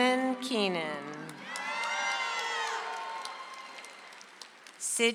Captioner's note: audience applauds